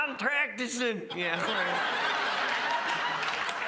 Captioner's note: crowd laughs